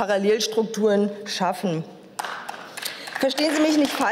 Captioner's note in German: Beifall